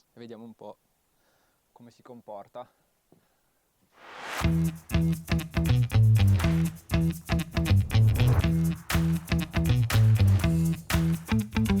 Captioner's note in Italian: Applauso